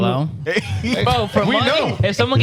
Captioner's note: laughing